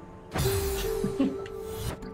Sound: chuckles

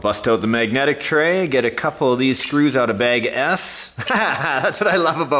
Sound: laughs

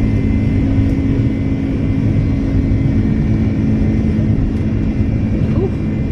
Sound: engine rumbling continues

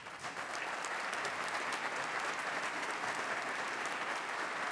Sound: everyone applauds

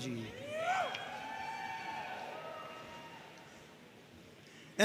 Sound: audience cheering

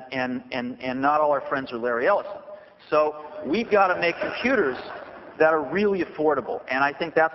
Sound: laughter

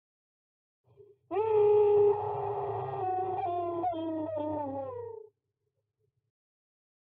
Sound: VHS horror-type scream

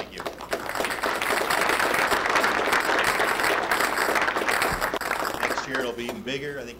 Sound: audience applause

